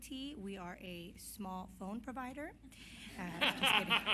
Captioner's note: laughter